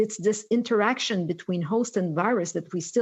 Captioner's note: speaking french